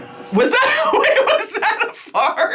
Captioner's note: laughing